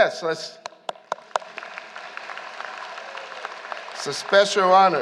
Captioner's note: applause